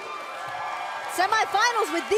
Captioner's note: cheers & applause